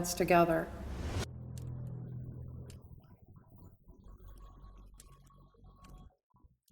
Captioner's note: air whooshing